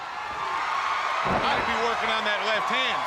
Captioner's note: crowd cheering